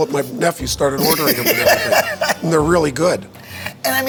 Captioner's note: laughs